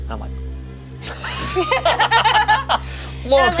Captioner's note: group laughs